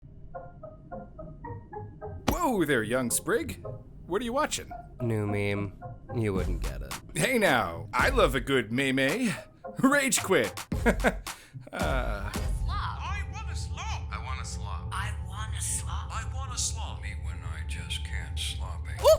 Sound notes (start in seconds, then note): 16.0 AI Voice 05